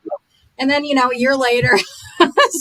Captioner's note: chuckles